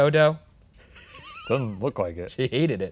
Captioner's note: laughs